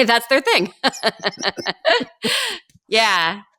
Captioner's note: laughing